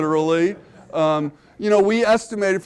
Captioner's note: audience laughing